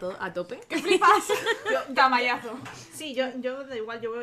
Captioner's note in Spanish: risas